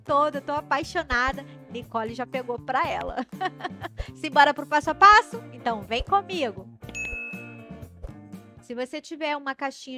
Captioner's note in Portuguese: risadas